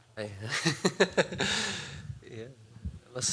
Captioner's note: chuckle